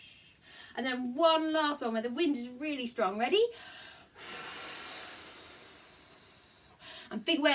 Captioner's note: blow